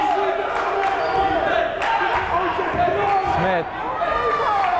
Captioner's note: chanting; clapping